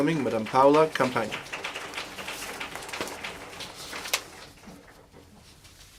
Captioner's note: applause